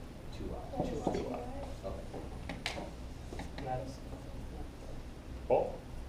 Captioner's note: background talking